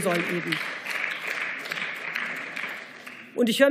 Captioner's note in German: Beifall